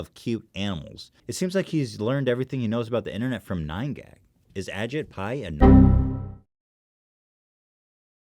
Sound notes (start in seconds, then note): 5.6 Windows XP™ Error Sound interrupts